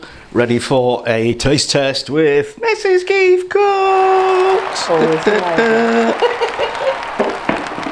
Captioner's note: applause